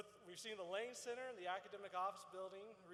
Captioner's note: none